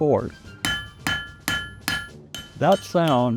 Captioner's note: iron clanging